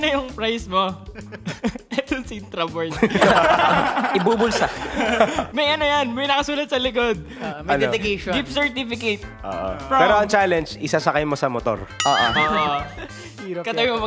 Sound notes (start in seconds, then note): 3.0 laughing